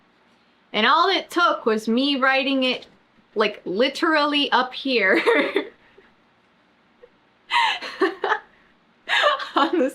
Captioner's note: laughs